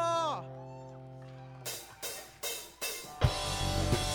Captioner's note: applause